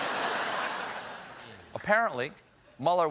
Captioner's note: laughter